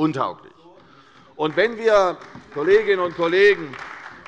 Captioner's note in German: Beifall bei der CDU